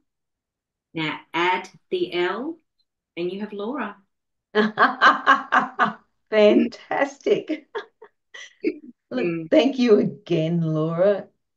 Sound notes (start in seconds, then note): 4.5 laughs; 8.3 both laugh